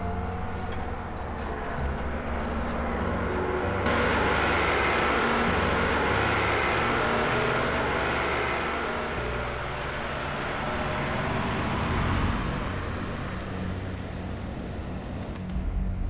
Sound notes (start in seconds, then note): 0.9 tractor approaching